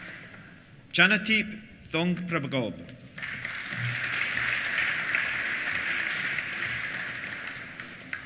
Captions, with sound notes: Chanathip Thongpragob. (APPLAUSE)